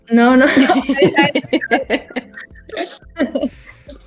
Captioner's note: laughs